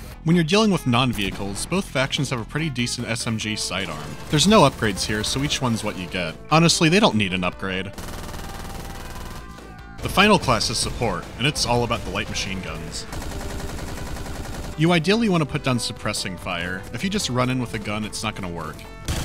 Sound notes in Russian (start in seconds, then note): 7.9 беглый огонь; 13.0 мощная пальба